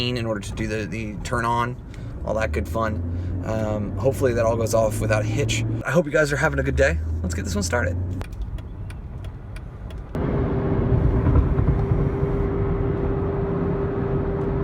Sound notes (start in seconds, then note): 8.1 turn signal clicking; 10.2 traffic noise